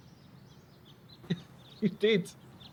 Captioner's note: laughs